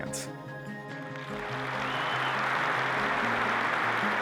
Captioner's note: applause